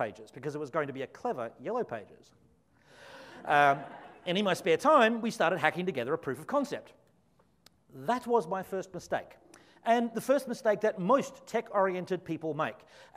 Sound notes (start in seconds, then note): 3.3 audience laughs